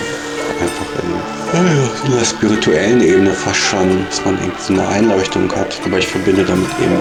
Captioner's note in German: Gähnen